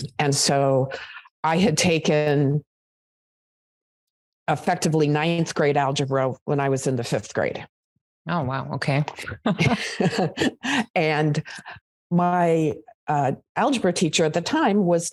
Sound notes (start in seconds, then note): 9.6 laughs